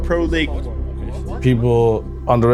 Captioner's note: teammates chattering